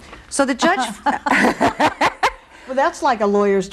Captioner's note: laughing